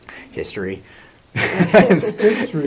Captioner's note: laughs